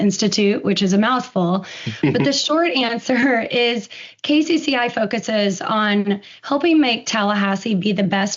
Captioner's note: laughs